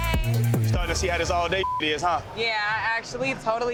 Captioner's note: beeps